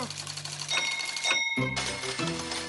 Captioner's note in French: ding ding